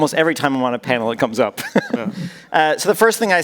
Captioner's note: laughs